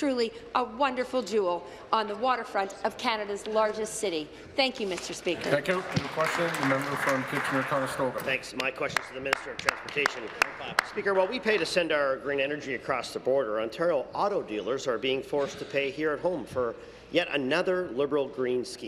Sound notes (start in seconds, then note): 9.3 applause